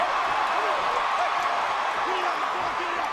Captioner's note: crowd cheering